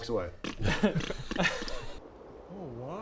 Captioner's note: pff ppt ppf pft pft